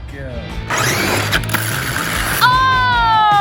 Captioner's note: RC car whirring